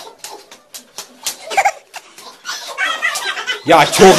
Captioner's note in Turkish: Gülüyor